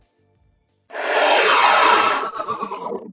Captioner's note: distorted frog croaks